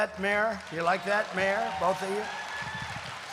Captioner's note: applause